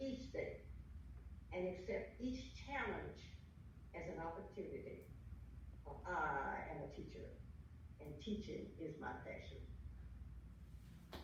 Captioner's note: clapping